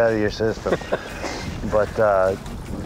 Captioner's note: laughs